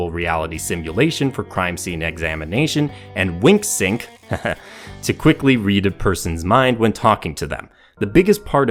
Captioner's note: haha